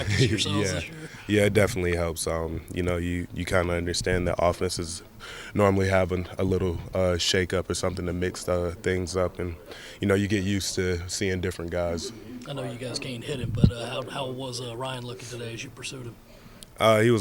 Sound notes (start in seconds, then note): 0.0 laughs